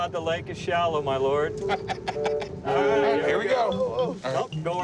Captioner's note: laughs